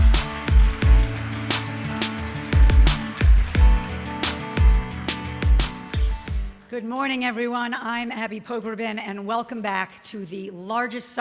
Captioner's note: applause